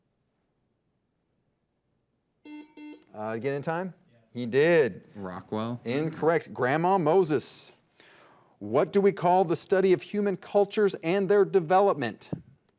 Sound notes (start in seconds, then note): 2.4 bell rings; 2.4 buzzer dings